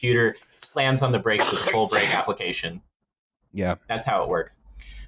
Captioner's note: juicy coughing